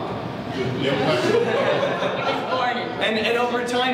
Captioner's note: laughter